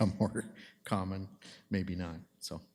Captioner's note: chuckling